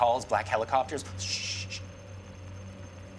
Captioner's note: shushing